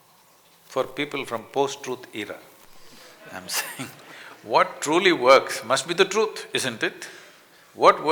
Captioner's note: laughter